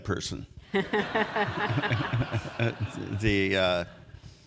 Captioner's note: all chuckle